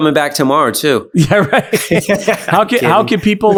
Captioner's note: both laughing